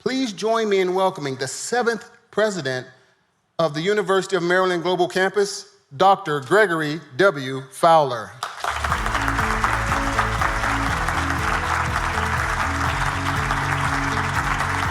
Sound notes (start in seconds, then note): 8.4 audience applauding; 11.9 upbeat music